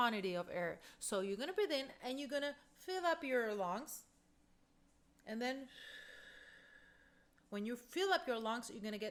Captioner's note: breath out